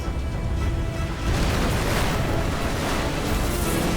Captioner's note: explosion